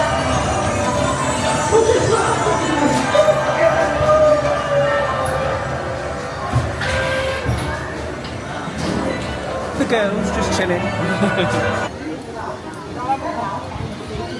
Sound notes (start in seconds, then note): 6.0 ride clunks; 10.8 chuckles